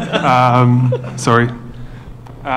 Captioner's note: laughter